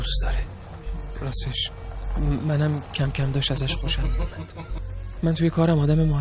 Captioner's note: laughing